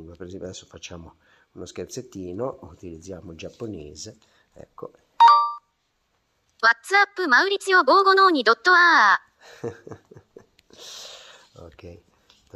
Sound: heh, heh, LOL

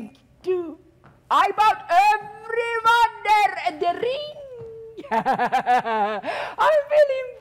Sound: loudly chuckling

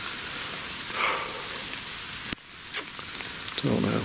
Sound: sighs

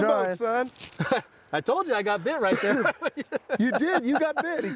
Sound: laughing

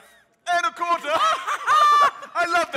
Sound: all laughing

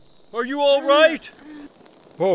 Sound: Billie groans

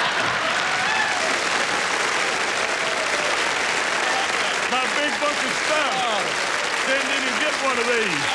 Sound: applause and laughter

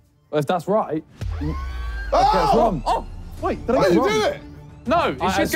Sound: group exclaiming

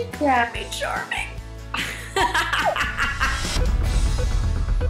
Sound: laughs

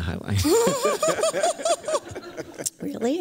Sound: laughter

